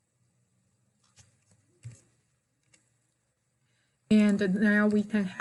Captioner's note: mouse clickings